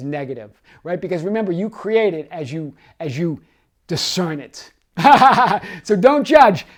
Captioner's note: laughs